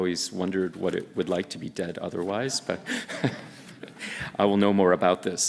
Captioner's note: laughing